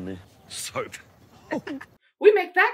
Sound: giggle of a man who WILL be licking that bar

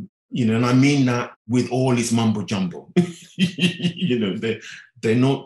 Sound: laughing

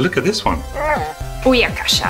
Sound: moans

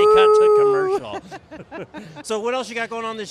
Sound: laughs

